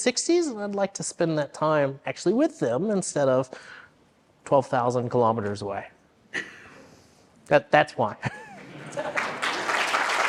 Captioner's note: applause